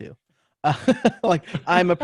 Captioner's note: laughs